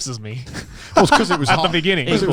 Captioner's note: laughs